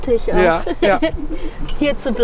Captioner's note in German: Sie lachen